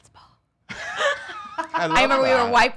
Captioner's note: laughs